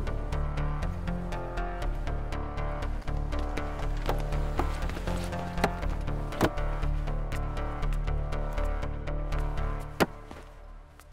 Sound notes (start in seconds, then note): 3.9 Car door opens and closes